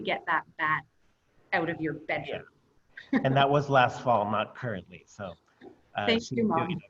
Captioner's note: laughter